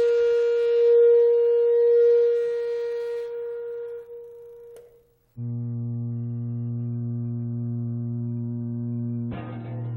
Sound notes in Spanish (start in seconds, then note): 2.6 Tono se desvanece